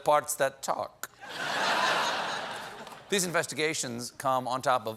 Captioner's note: laughter